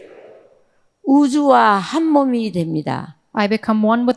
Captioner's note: speaking in foreign language